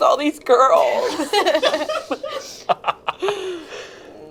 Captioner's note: group laughs